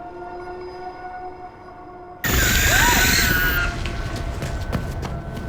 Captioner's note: footsteps